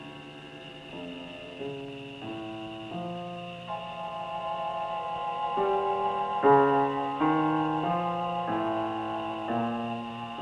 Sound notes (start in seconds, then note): 1.8 insects chirping; 5.8 stirring music